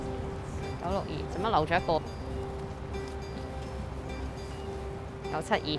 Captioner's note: speaking in foreign language